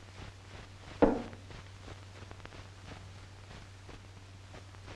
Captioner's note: glass thuds